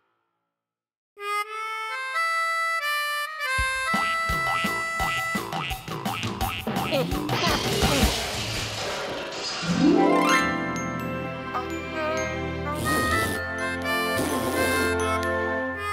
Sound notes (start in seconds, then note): 1.2 jazzy harmonica; 4.5 mouth harp and fanfare; 7.7 crashing; 12.7 spitting; 14.0 slow jazzy tune